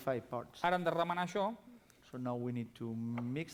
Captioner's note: non-english speech